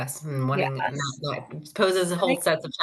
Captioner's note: speaks faintly